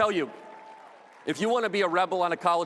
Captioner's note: audience cheers